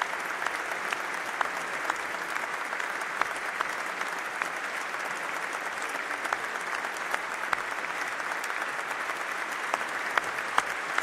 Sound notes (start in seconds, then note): 1.6 applause